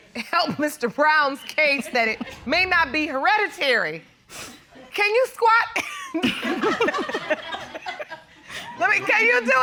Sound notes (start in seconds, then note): 5.8 laughs; 6.2 audience laughs